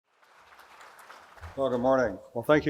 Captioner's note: applause